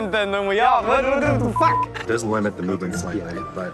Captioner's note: beep